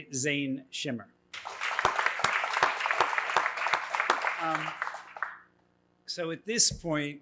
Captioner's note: applause